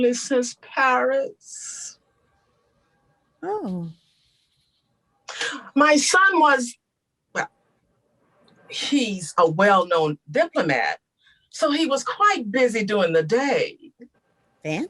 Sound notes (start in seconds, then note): none